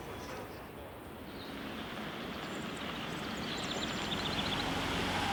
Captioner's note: birds chirping